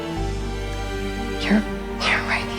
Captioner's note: voiceover